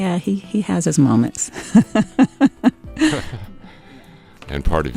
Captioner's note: laughs